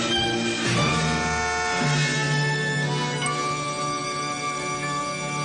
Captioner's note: car horn